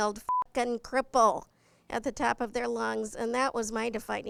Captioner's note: beep